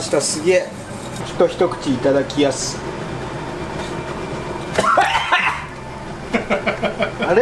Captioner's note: cough cough; haha